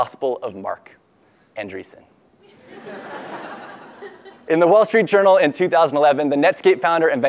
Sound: laugh

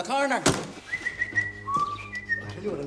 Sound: whistling

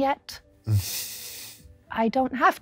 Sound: dry chuckle

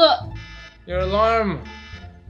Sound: whines; alarm beeping

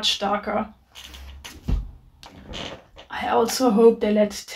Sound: book laid down thump

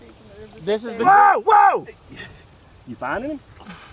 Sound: yelling

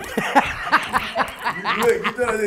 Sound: Regina laughing

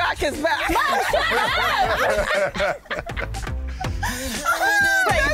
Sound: ladies laughing; all laughing

